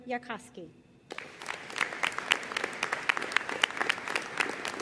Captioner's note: audience applauding